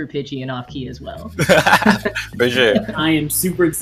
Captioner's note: laugh